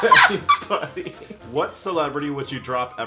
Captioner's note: laughing